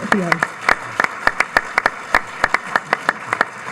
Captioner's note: audience applauds